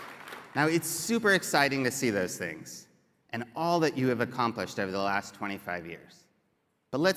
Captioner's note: applause